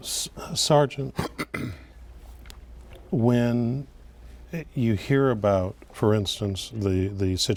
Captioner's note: clears throat